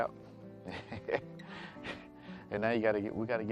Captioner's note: laughs